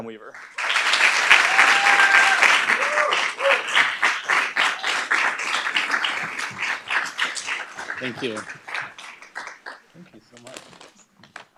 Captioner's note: applause